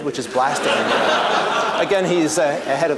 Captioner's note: laughter